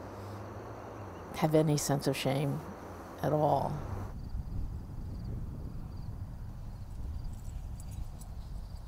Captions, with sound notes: have any sense of shame at all. (insects chirping)